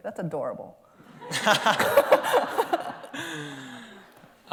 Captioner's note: laughter